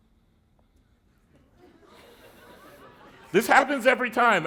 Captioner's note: laughter